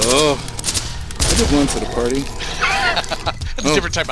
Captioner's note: laughs